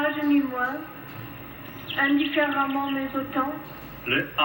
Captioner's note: birds chirping